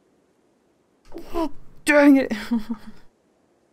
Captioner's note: laughs; angry noise